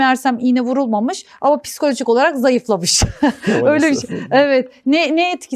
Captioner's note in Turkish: kahkaha